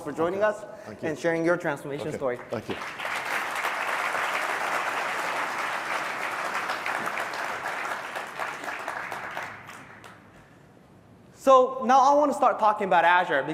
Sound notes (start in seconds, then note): 2.2 applause